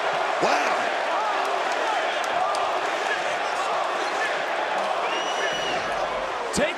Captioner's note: audience cheering